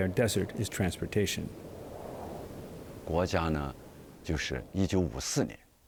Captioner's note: speaking chinese